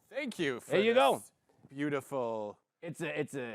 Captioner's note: gruffly